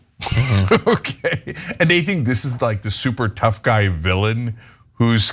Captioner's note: laugh